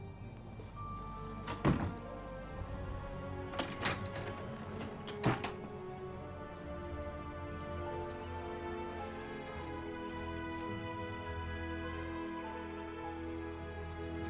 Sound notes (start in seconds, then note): 3.4 door clatters; 7.8 soft haunting music